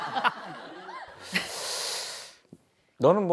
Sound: inhaling

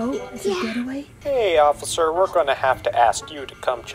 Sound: man On phone

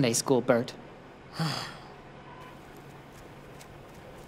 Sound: Burt sighs

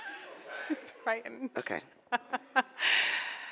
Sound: laughs

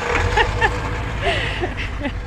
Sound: laughter

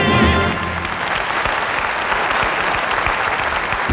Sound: audience clapping

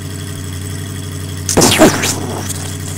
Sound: explosion

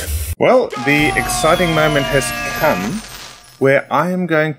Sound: horns and whistles blare

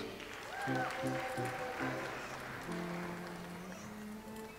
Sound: audience applauds

